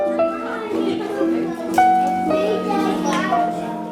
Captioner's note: group chattering